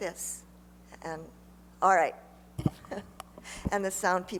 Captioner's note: chuckles